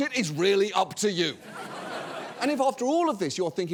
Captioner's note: audience laughs